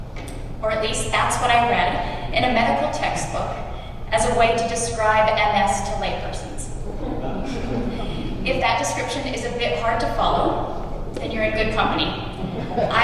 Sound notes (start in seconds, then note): 6.8 laughter